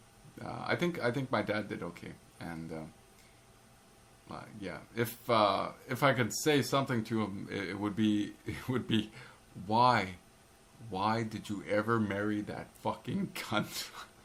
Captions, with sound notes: I think my dad did OK, and.,.. If I could say something to him, it would be, It would be. (laugh) Why?... Why did you ever marry that fucking cunt?